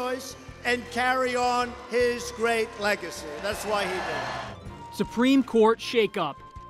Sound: cheers, applause

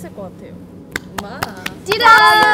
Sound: clap

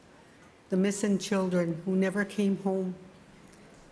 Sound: speaking Indigenous LANGUAGE

